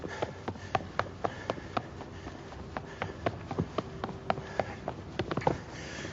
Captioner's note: footsteps running